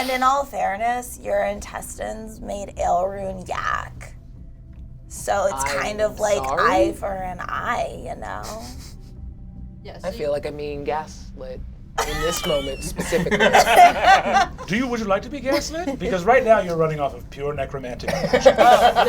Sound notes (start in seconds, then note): 12.0 all laugh